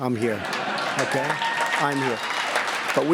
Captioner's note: laughter and applause